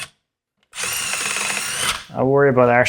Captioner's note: tool whirring